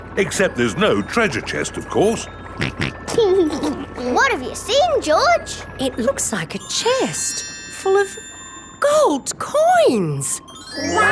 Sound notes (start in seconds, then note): 2.6 snorts and laughs